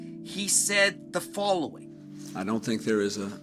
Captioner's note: soundbite of archived recording